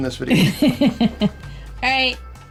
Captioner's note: woman laughs